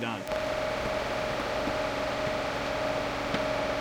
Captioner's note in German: Maschine läuft